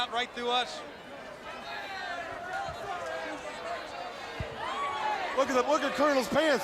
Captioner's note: crowd chatter